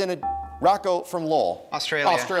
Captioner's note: dinging